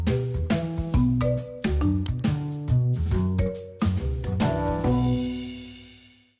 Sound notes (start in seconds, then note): 2.0 mouse clicks